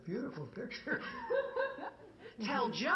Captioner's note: woman laughs